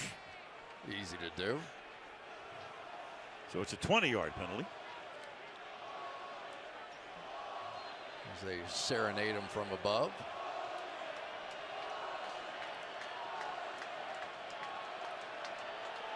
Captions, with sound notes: Right. Easy to do. So it's a 20-yard penalty. As they serenade him from above. [fans chanting]